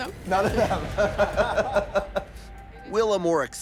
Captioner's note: all laughing